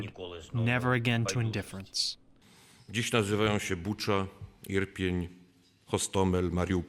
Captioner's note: speaking foreign language